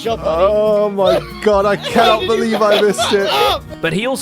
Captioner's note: laughs